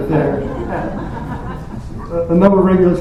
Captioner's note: laughter